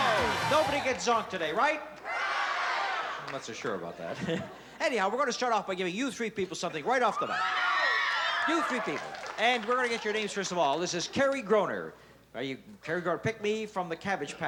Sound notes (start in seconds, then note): 7.2 screams